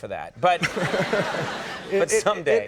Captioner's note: audience laughs